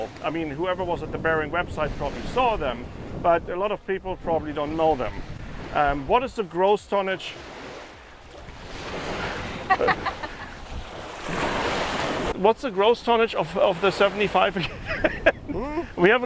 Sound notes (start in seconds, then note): 9.4 laughs; 9.9 waves crash; 14.7 laughs